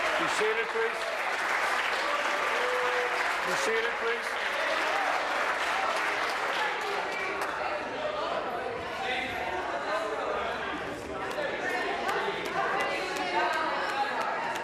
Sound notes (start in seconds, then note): 1.7 applause